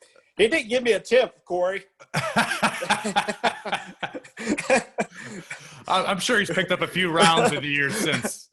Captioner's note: laugh